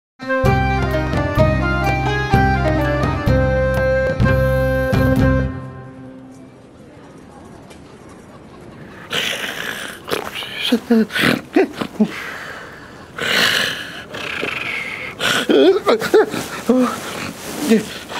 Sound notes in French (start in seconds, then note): 0.2 Musique générique; 7.2 bruit du vent; 8.9 ronflements